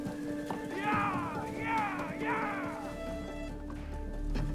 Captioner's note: horses whinnying; suspenseful music